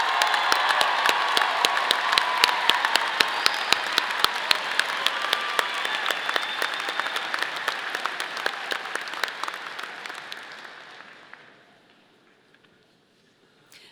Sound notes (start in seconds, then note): 1.2 audience applauding; 1.2 audience cheering